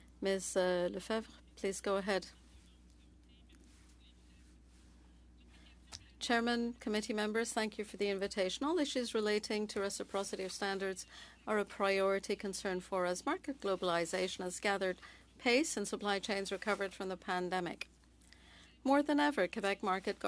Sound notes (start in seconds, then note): 0.8 speaking French